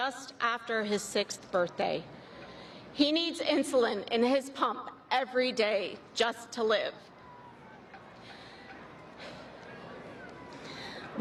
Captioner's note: applause